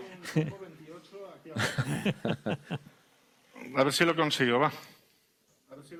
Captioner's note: laughs